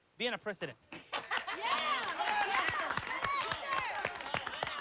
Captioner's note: cheering